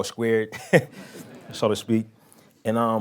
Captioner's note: laughing